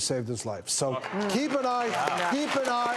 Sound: audience applauding

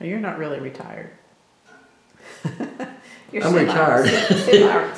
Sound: laughs

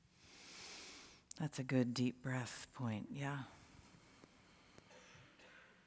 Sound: breathes

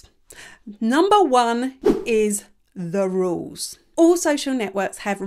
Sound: image whooshes

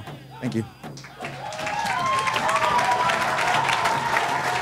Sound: audience applauds

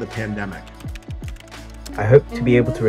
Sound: keyboard clacking

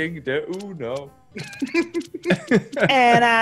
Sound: laugh

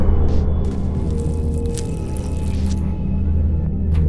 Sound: suspenseful music; squishing; suspenseful music

